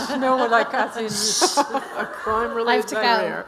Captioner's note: all laughing